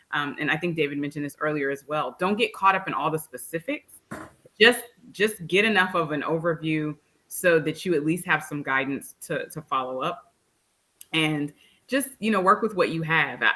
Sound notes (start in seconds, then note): none